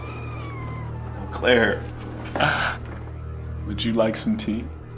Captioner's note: laughing